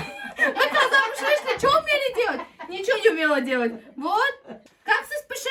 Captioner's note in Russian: смех